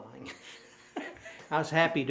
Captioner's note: laughing